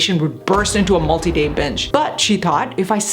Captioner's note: volcano thundering